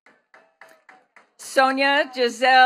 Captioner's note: attendees clapping